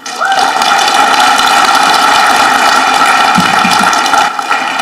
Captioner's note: audience clapping